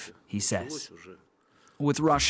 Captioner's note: speaking alternate language